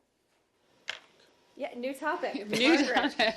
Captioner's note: laughter